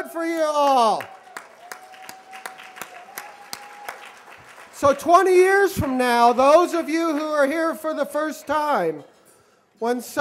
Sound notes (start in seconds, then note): 1.7 applause